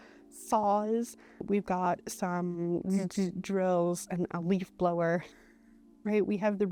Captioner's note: zzt-zzt